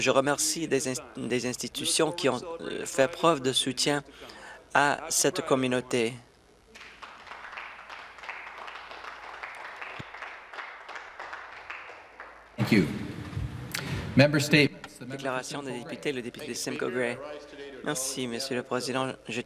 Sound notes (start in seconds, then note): 11.5 some Applause